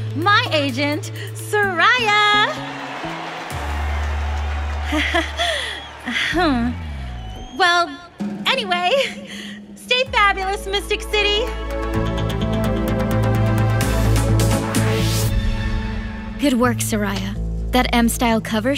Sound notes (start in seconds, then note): 3.3 Shellnele chuckles nervously